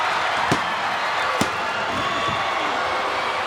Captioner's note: crowd cheering; referee smacking; crowd cheering